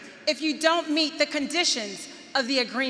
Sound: none

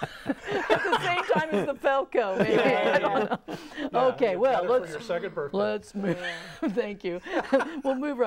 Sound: laughing

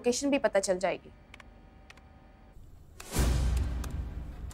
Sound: keyboard typing

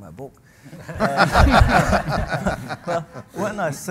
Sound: audience and panel laugh

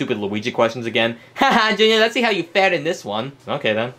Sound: laughs

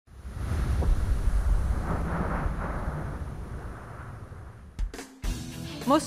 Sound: wind noise

